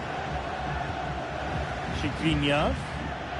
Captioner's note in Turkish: coşkulu tezahürat